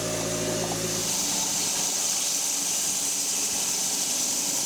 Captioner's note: log saw whirring